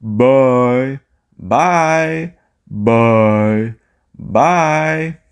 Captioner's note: speaking